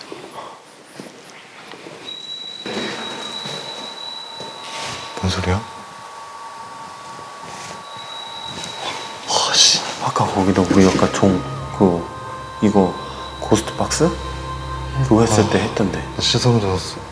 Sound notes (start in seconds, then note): 3.2 ring ring; 7.8 ring